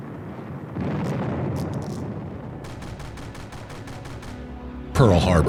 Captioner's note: explosions and gunfire